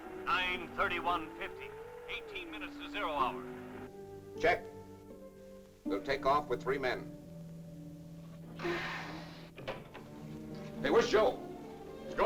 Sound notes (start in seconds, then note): 8.6 hatch hisses